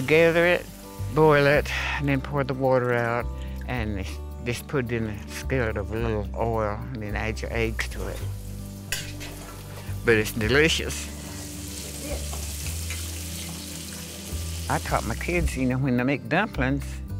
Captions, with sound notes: We gather it, boil it and then pour the water out and just put it in a skillet with a little oil and then add your eggs to it. But it's delicious. (Food sizzling) I taught my kids, you know, when they make dumplings you